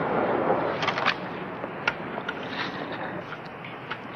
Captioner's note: gun firing